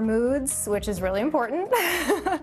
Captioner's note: laughs